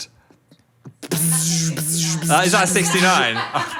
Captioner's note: imitates buzzing